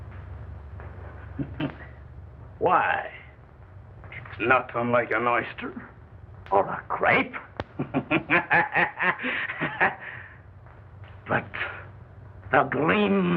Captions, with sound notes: Why, it's not unlike an oyster or a grape. (laughing wildly) But the gleam is gone.